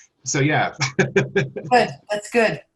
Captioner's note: laughs